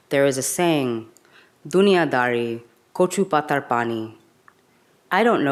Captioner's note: speaks in a foreign language